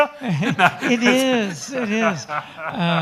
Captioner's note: all laughing